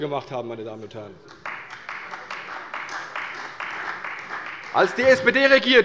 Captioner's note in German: Beifall bei der CDU